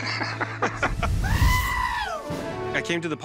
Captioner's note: laughter; scream